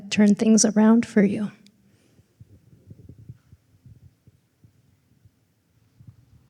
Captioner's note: silence